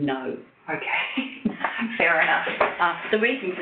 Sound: chuckles

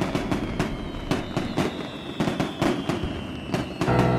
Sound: fireworks exploding

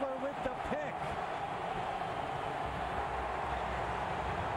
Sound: cheering, applause

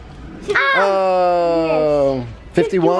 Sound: yells

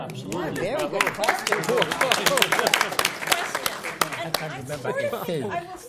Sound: applause

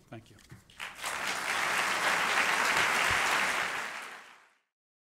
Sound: applause

